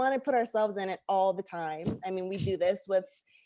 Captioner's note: scoffs